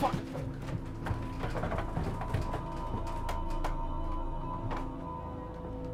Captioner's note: clattering continues